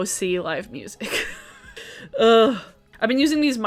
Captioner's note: laughing